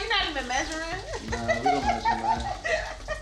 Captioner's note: laughing